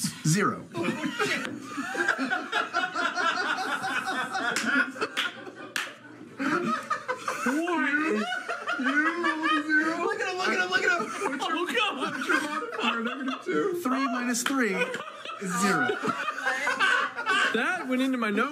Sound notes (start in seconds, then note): 5.8 laughter